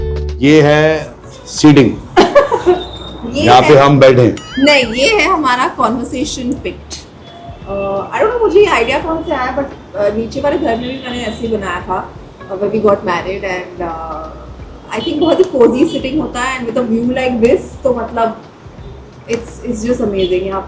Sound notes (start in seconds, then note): 2.2 laughs